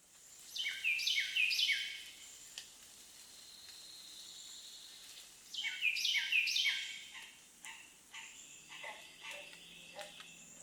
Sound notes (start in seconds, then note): 0.5 birds chirping